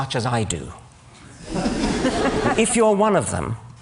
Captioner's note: laughter